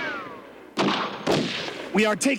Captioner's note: gun shots